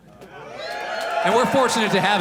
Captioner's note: audience cheers